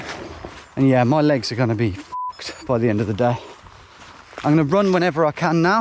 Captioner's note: beep